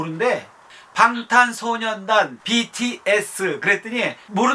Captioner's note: Korean